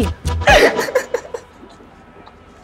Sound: laughing

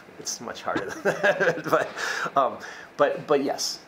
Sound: laughs

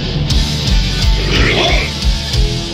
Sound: grunting

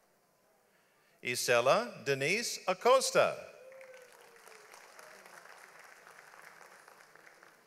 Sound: audience applauds

